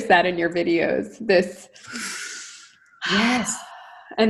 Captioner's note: deep breath